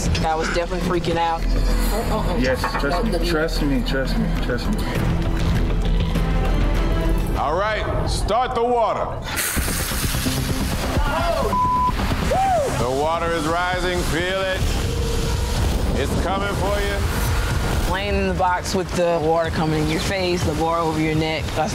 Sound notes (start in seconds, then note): 5.4 dramatic music; 9.4 water splashing; 17.1 water rushing